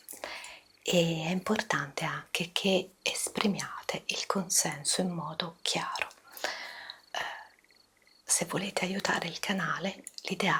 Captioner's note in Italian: sospiri